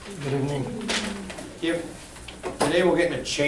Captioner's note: voiceover